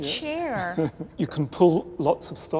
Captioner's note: laughter